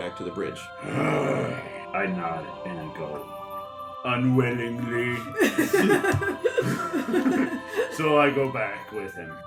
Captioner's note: annoyed growl